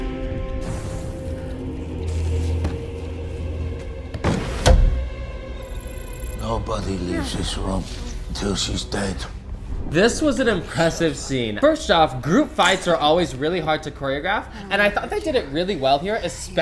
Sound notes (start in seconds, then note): 5.7 computers beep